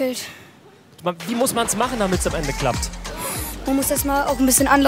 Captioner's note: Plätschern